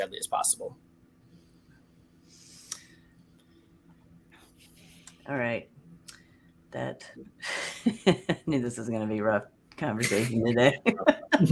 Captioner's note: pause